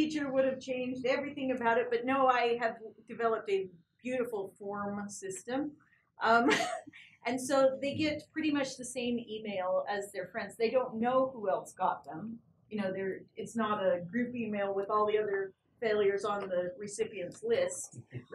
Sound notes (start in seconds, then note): 5.8 laugh